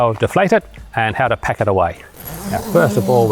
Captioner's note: zipper gliding